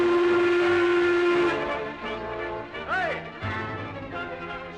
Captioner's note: ship horn blasting